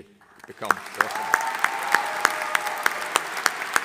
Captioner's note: audience applauding